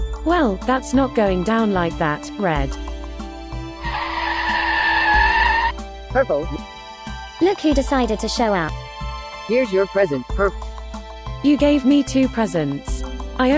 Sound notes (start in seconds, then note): 3.8 wagon screeching to a halt